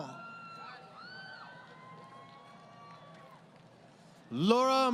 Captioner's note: crowd Cheering